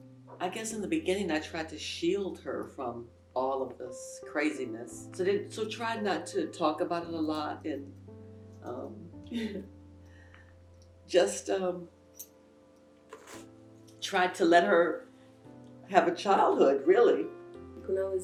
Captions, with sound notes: - I guess in the beginning, I tried to shield her from all of this craziness. So tried not to talk about it a lot, and (chokes up) just, tried to let her have a childhood really.